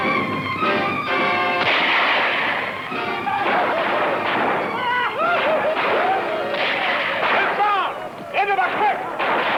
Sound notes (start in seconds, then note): 1.5 gunfire; 8.6 bugle